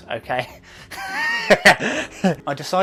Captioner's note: laughing